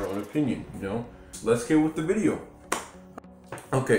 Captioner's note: clap